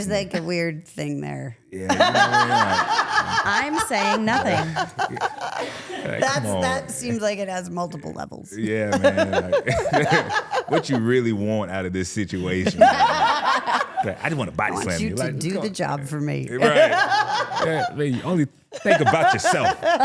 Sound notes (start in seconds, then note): 1.8 laughs; 8.6 laughs; 12.4 laughing; 16.6 laughs